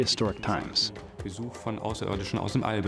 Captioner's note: non-english speech